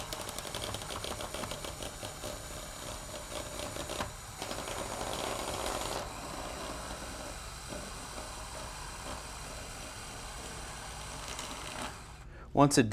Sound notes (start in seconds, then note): 2.3 drilling noises